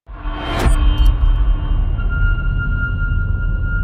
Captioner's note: dramatic sound